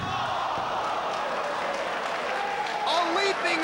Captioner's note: spectators exclaiming; spectators applauding